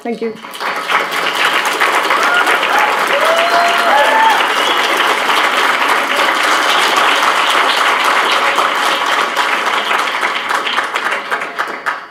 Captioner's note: applause